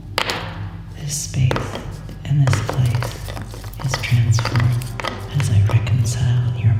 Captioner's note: whispering